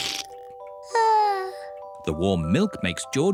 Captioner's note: yawns